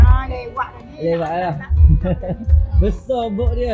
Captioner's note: laugh